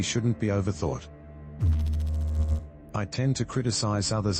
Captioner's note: electrical noise